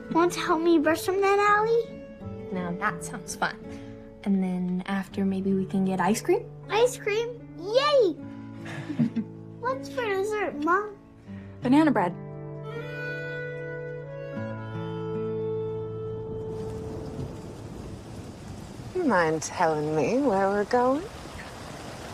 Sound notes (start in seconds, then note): 8.6 laughs; 16.3 rain pouring